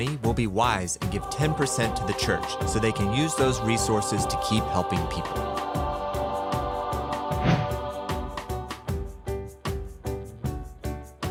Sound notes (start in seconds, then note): 5.7 upbeat music; 5.7 whooshing